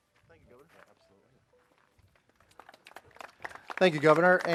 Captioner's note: clapping